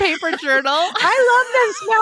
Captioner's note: laughing